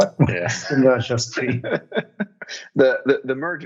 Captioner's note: laughing